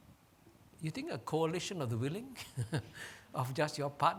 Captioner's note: chuckles